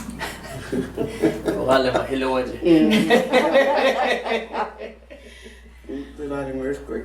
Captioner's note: laughing